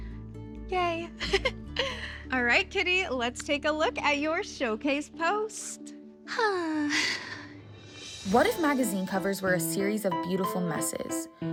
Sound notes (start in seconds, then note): 1.2 laughs; 6.3 sighs